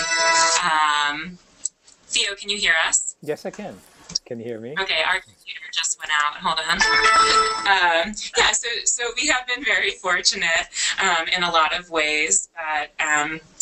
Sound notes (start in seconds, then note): 0.0 loud computer tones; 6.5 loud computer tones